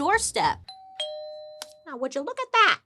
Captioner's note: doorbell rings